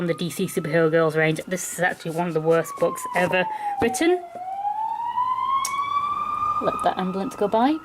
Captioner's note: siren Sounds